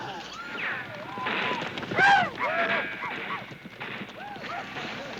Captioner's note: gun shots and yelling from TV